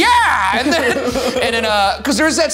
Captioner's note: laughing